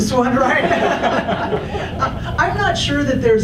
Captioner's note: audience laughs